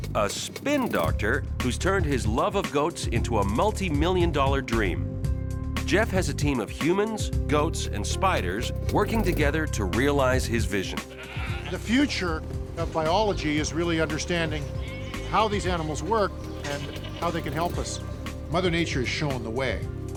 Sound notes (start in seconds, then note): 11.1 goats bleating